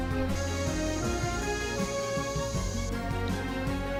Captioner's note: spray hissing